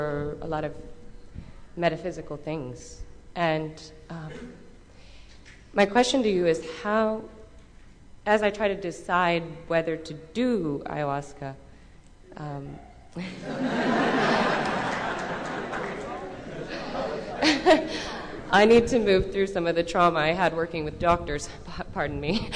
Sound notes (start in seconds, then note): 13.2 laughter